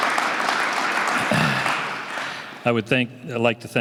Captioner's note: applause